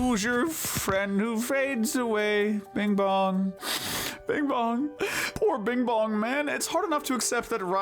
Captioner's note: sniff